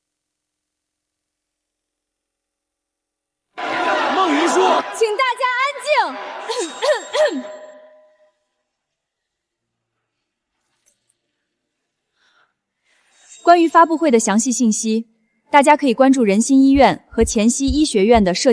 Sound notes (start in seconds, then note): 6.0 cough, cough, cough